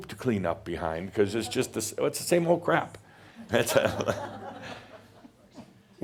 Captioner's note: more chuckles